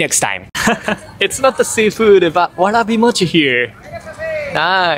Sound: laughs

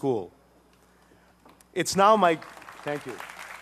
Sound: applause

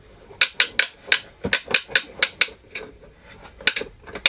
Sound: gear cranking

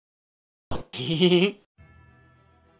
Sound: giggles

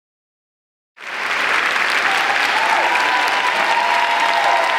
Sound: audience clapping

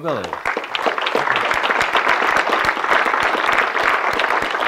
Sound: audience clapping

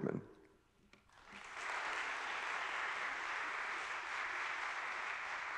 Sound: audience clapping

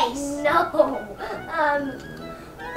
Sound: laughing

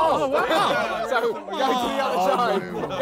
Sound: all laughing

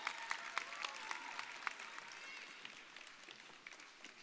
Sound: audience applauding

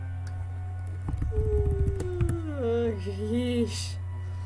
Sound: typing sounds

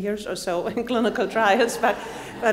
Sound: audience laughs

